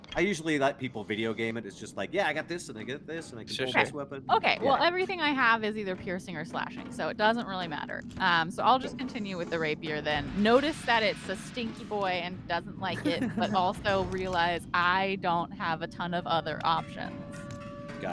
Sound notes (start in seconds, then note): 12.9 Cornette laughs